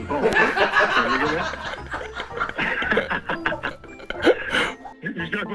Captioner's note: crew members laughing; all laughing